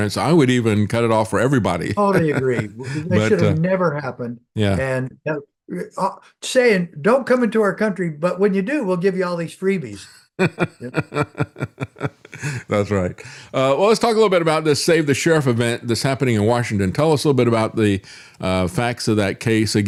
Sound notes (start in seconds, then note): 10.4 laughing